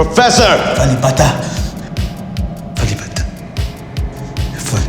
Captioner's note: dramatic dance music; mutters in foreign language